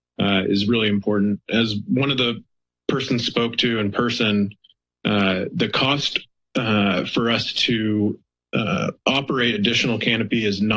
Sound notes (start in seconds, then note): none